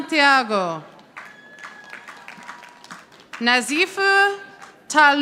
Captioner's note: audience applauding